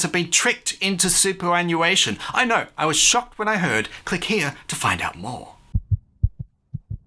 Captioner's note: heart beats